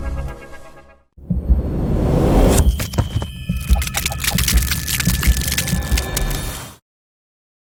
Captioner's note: keyboard clicking; logo swooshing